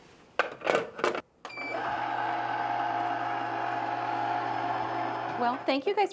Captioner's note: ice cream maker whirring